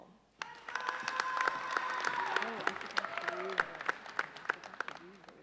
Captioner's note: audience cheers and applauds